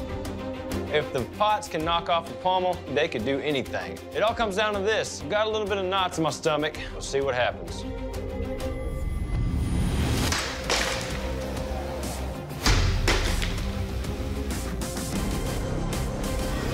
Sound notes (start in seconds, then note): 10.3 pots shattering